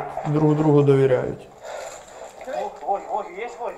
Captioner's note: grenades